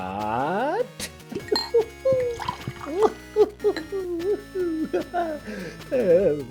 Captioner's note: glass tinks as my liver cries out in agony